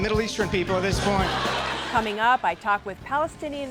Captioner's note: laughter